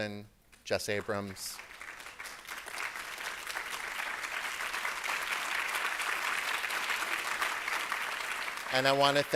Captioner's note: applause